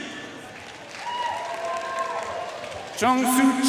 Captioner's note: audience cheering and applauding